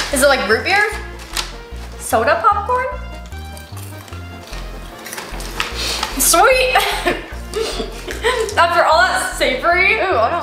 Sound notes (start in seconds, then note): 3.5 popcorn crunching